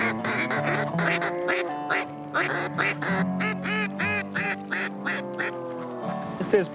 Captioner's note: ducks quacking